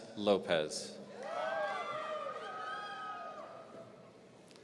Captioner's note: audience cheering